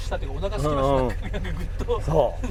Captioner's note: laughs